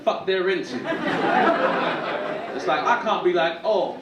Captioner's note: audience laughing